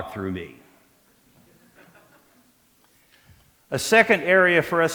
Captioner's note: laughter